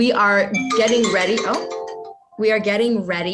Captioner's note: phone ringing